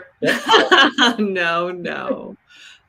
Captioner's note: laughs